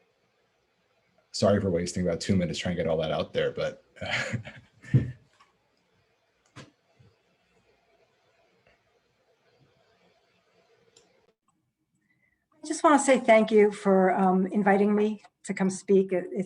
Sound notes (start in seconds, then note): 4.0 chuckles